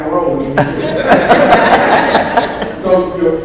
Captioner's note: audience laughs